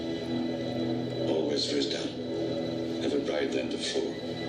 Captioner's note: dark foreboding music; speaks faintly